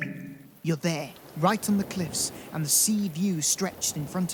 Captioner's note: waves crashing